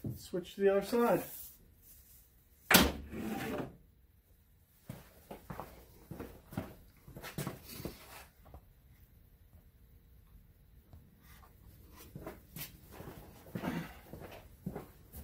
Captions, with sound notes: switch to the other side. (footsteps receding)